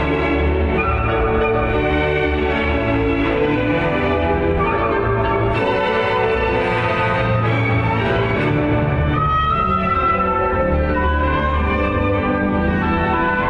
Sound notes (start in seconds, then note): none